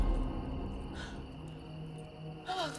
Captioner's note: Candace exhales